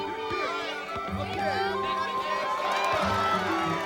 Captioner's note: cheering and shouting